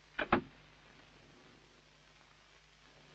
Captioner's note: door Closes